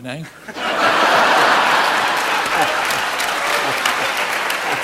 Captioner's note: audience laughing